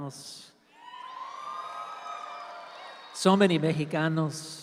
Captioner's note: audience cheers